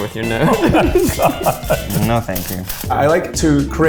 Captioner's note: laughs